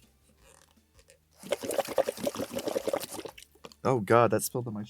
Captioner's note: water bubbles